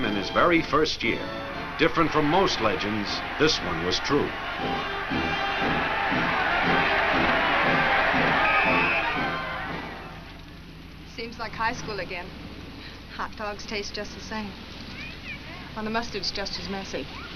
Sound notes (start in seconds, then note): 5.5 crowd cheers; 8.4 whistle blows